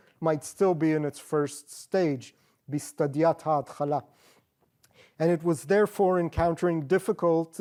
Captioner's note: non-english